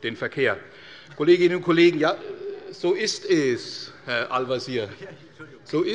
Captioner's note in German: Heiterkeit - Zuruf des Ministers Tarek Al-Wazir